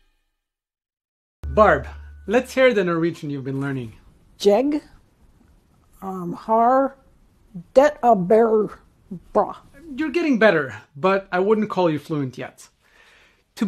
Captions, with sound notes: [Intro music] Barb, let's hear the Norwegian you've been learning. [speaking broken Norwegian] You're getting better, but I wouldn't call you fluent yet.